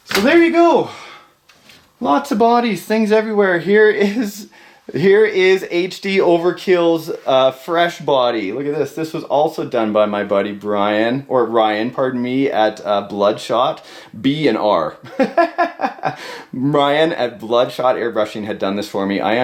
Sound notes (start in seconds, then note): 15.1 laughing